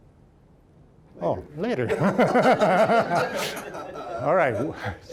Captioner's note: all laughing